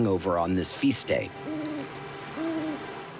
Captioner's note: owl hoots